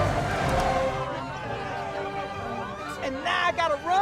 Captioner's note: distant siren blaring